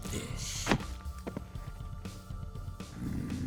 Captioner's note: thud; growls